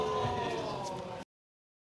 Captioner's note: audience exclaims